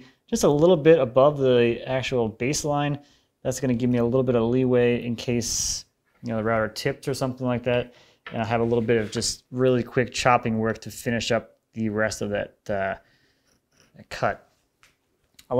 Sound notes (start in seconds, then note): none